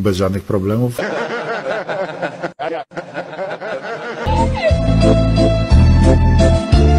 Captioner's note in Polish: śmiech